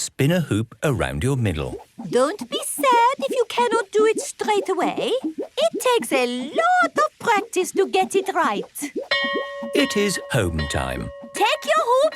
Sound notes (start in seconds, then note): 9.1 bell rings